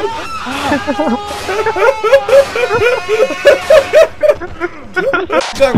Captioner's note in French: Rire